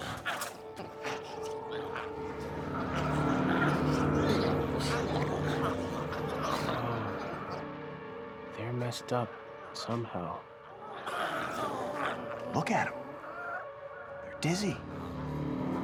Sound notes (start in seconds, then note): 0.0 glowzies growling; 10.4 glowzies growling